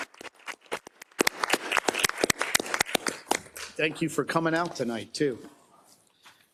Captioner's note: applause